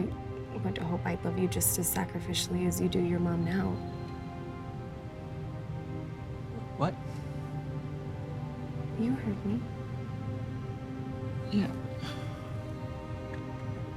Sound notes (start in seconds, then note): 11.6 sighs